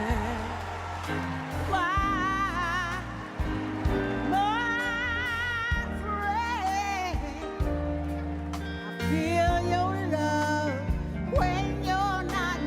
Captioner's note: applause